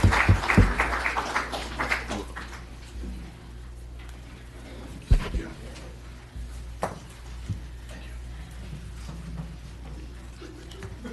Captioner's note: applause